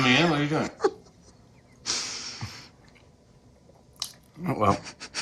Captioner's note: chuckles